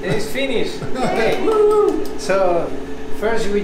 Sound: claps

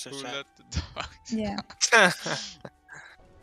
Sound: haha

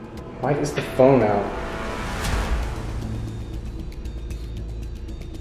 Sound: ominous sound effect

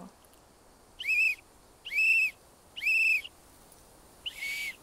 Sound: blowing whistle

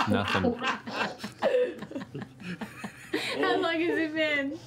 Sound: laughing

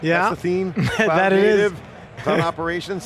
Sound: chuckles

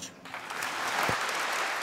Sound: applause

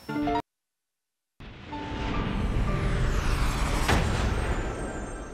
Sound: dramatic sound

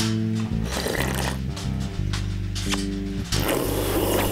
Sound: slurping

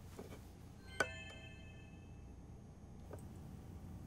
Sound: doorbell chiming

